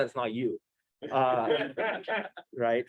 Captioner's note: laughter